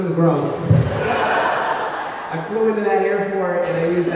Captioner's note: audience laughing